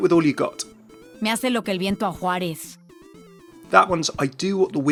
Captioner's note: Sombra speaking in foreign language